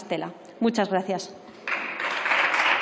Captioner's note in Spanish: Aplausos